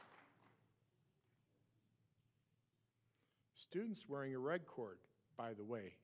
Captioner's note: applause